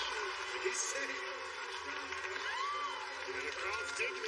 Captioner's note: cheers and applause